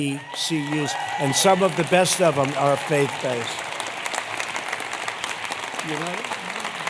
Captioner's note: applause